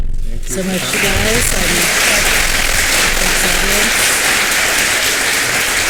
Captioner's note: applause